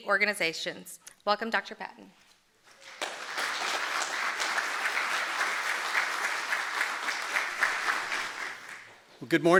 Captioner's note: applause